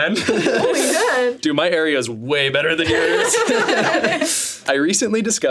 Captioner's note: laughs